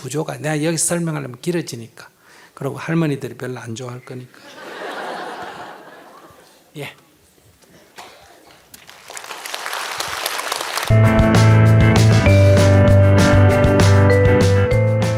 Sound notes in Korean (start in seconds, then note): 4.4 청중 웃음; 8.0 청중 박수